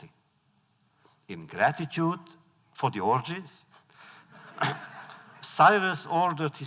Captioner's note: laughter